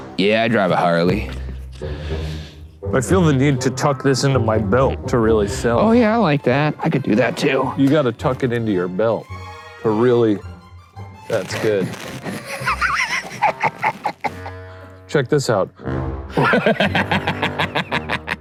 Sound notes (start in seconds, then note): 11.6 laughing; 16.3 laughing